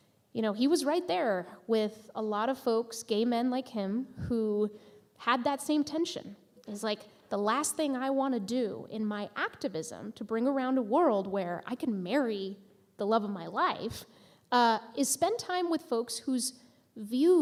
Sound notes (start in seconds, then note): none